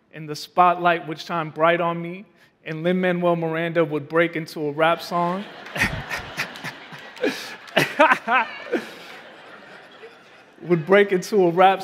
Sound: laughing

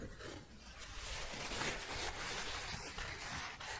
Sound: scratching and shuffling

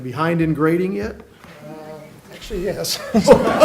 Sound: laughter

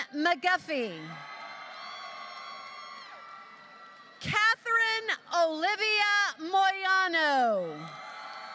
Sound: applause

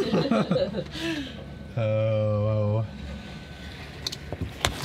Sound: laughing

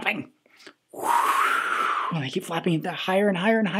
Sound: whooshing

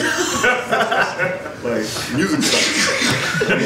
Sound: audience laughs

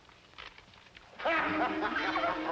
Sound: man laughing; dramatic music playing

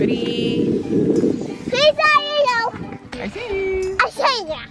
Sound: child yelling

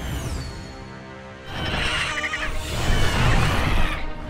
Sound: squawking

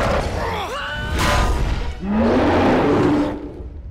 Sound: growling; wincing

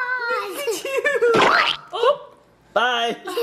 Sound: splatter sound as slice falls

